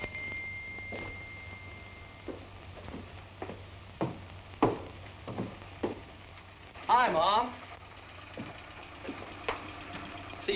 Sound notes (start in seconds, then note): 0.0 bell dinging